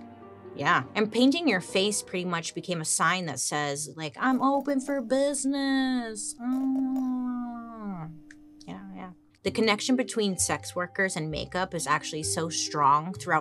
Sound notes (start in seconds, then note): 7.4 murmurs